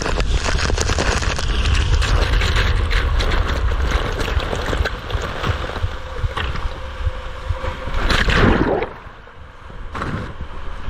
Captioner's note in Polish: odgłos wody; odgłos wody